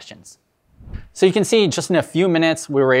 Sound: screen whooshes

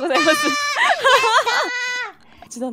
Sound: laughs

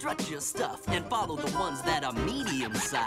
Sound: giggles

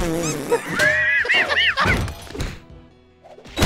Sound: wheezing laughter

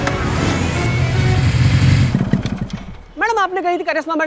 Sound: bike halts

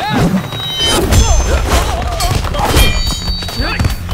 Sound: sounds of rage, blows and swishing of sword

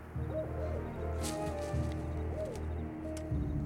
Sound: owl hooting

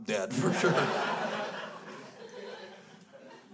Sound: crowd laughs

